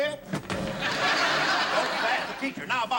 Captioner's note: laughter